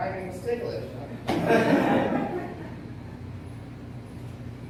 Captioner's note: laughter